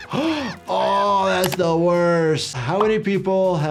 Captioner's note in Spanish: Sniffles gritando; jadeos